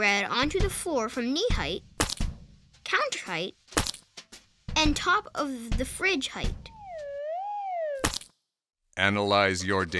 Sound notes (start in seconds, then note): 6.4 sandwich whizzing and splatting